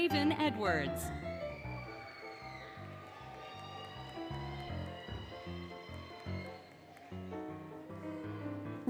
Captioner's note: applause, Cheering, Music